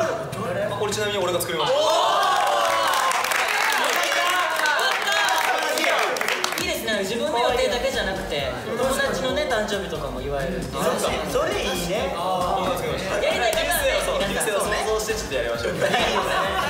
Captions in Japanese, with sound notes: これちなみに俺が作りました おーーっ！！ （拍手） よかったぁ！ （自分で拍手） いいですねぇ、自分の予定だけじゃなくて… 友だちの誕生日とかも祝えるって それいいねぇ そう、流星を想像してちょっとやりました